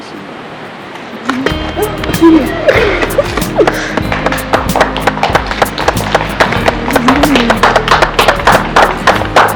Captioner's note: laughing and clapping in background